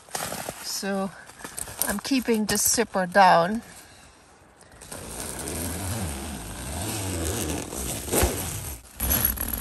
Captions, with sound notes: So ... I'm keeping the zipper down. [Sound of the zipper opening]